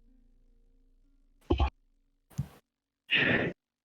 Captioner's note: vacuum silence; unimportant mic noises; laboured breath